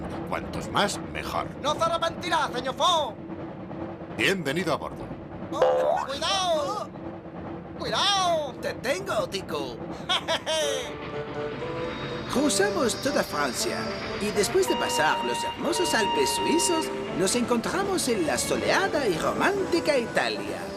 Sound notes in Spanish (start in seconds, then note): 10.0 ríe